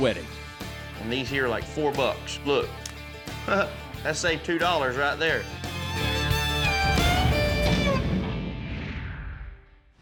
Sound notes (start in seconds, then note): 2.9 chuckles